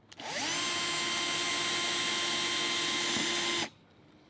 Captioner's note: drill whirs